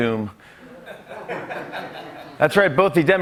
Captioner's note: laughter